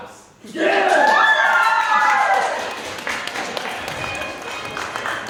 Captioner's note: cheers and claps